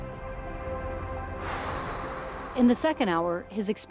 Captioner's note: sighs